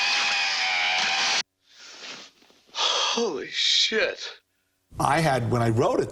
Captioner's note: gasps